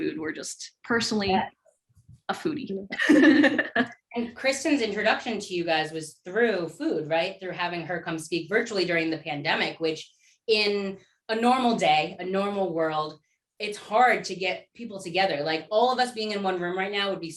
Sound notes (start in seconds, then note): 2.9 laughter